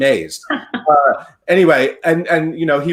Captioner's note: laughs